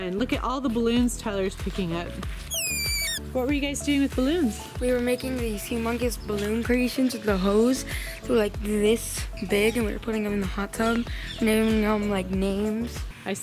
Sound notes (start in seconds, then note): 2.4 balloon whistles